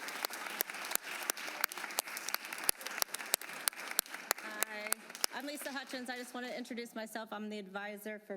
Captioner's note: applause